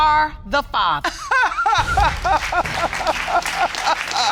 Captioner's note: grandmother sobs